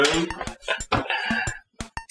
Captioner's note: laughs